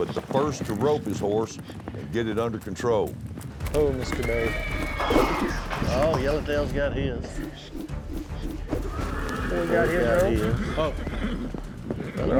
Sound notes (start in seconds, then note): 3.9 horse whinnies, rope swirls; 7.3 rope swirls